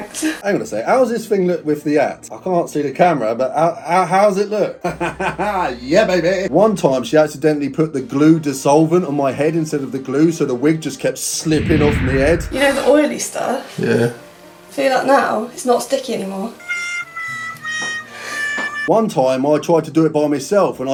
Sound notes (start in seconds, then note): 4.8 laughing